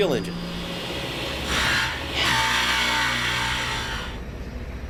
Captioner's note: machine grinding